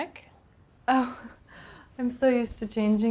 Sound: laughing

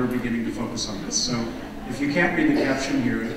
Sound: audience laughing

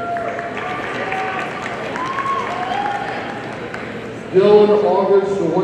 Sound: audience cheering and applauding

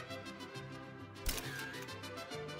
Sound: camera shutter clicks

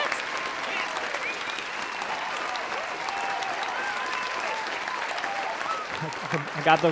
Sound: audience cheering

